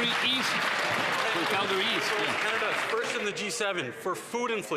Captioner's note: some Applause